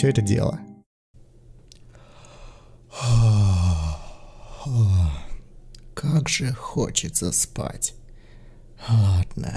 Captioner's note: yawns